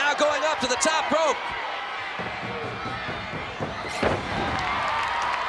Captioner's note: crowd cheering